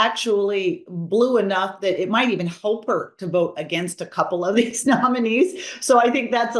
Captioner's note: laugh